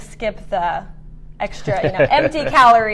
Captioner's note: laughs